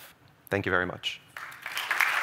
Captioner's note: applause